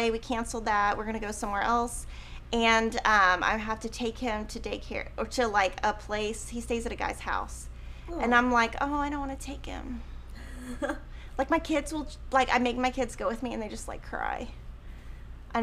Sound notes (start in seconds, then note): 10.6 chuckles